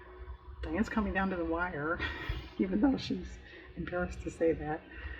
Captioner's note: laughs